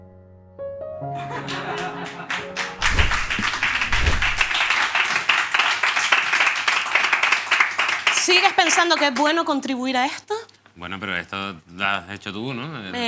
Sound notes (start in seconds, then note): 1.3 laughter and applause